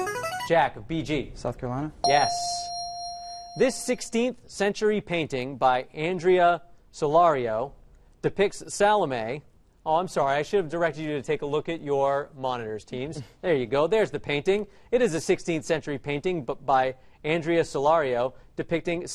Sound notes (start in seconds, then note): 2.0 correct answer chime